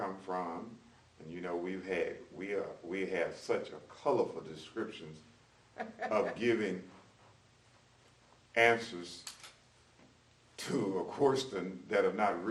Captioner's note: laughs